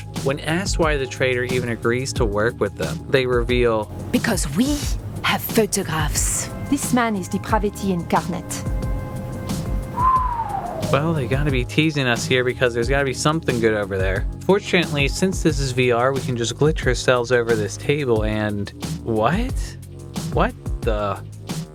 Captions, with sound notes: When asked why the traitor even agrees to work with them, they reveal... "Because we have photographs." "This man is depravity incarnate." [whistle] Well, they gotta be teasing us here because there's gotta be something good over there. Fortunately, since this is VR, we can just glitch ourselves over this table and... What? What the?